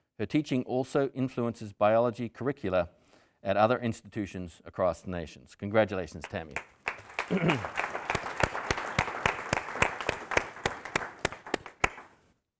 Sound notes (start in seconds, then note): 6.5 audience applauding